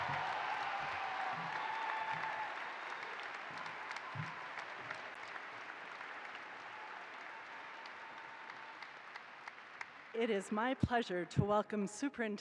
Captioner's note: applause